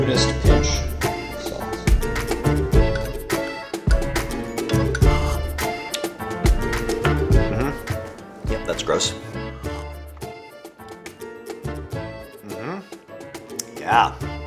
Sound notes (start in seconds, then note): 0.0 beer fizzing; 2.3 playful music continues; 4.3 beer slurping